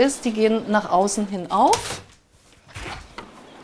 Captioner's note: clicking